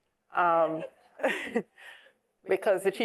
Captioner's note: laughing